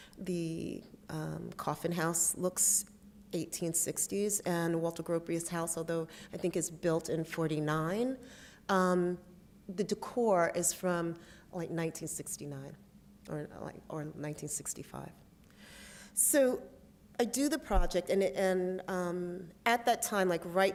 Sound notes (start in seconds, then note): none